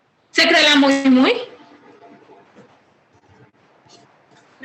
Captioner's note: woman speaking Spanish